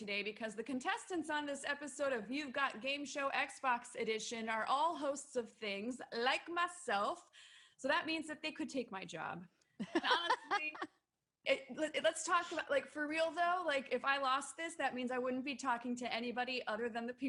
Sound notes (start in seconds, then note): 9.8 laughing